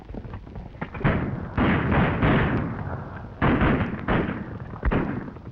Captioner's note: gunshots banging